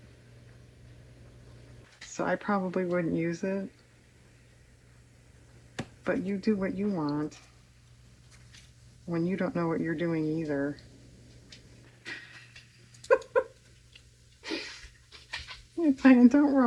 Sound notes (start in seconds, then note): 12.9 laughs